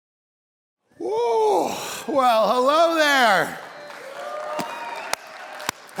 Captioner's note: congregation applauding